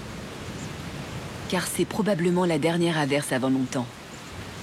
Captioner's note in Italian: pioggia battente